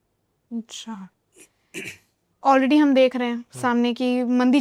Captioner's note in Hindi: गला साफ़ करने की आवाज़